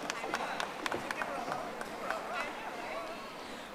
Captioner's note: audience applauding